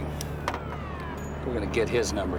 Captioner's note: siren wailing